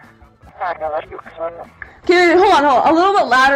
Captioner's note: speaking Italian